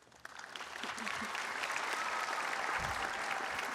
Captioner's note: audience applauds